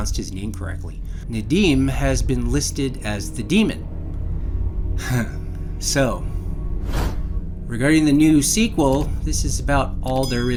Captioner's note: light chuckle